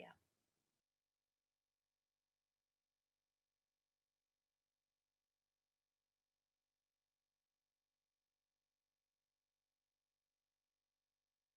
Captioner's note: silence